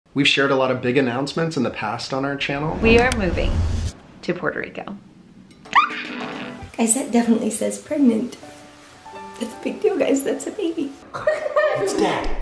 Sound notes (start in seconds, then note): 5.9 squeals; 11.1 children laughing